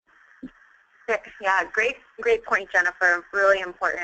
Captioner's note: voiceover